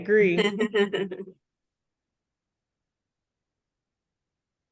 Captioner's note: participant chuckling